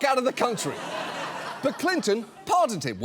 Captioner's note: audience laughs